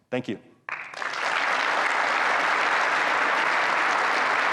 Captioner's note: audience applauds